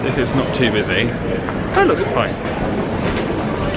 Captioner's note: none